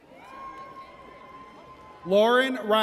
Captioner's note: audience cheers